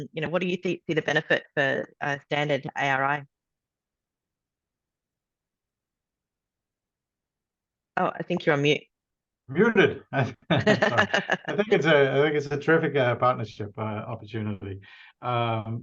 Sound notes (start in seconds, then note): 5.9 long pause; 10.0 laughs